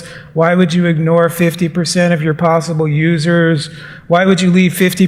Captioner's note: none